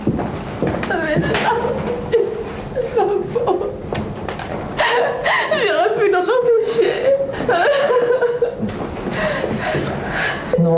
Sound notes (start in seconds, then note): 5.1 woman speaking in French; 7.4 sobbing